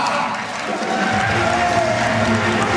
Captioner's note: audience applauds; audience cheers; upbeat music; audience applauds